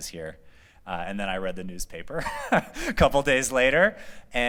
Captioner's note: laughter